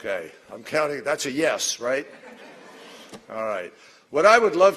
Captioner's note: laughter